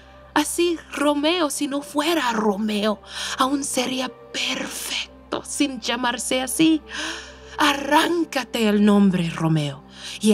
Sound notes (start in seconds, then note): none